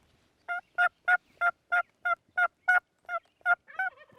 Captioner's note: turkey calling